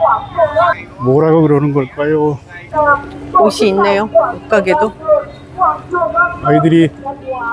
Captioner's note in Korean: 노점 스피커 소리